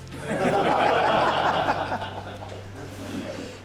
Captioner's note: laughs